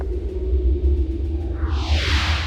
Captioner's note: whooshing